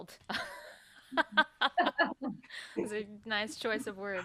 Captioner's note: laughing